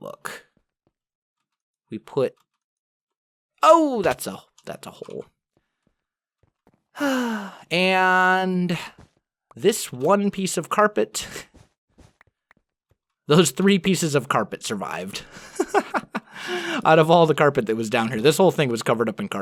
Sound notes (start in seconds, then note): 7.0 sigh